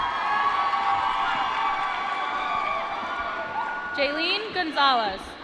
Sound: applause

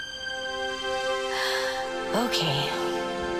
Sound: Zitkala-Sa sighs

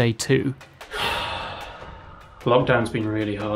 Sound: exhales

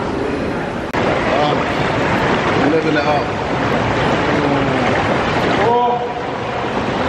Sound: water bubbling

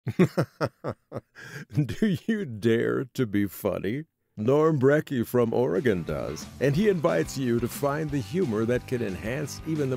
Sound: laughter!

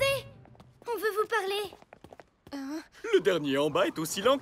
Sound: sighs

